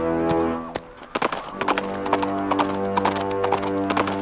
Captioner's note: galloping